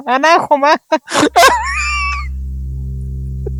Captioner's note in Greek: γέλια